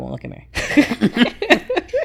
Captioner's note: laughing